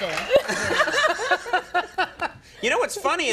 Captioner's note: all laugh